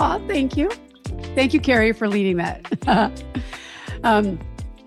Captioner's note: chuckles